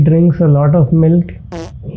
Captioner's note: fart sound